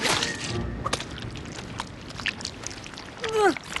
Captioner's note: squish!; groans